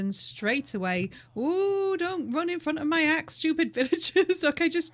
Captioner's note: laughing